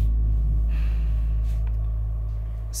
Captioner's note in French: il soupire